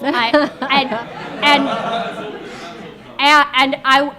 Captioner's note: members of the audience laughing